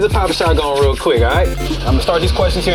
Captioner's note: digital beeps from game sounding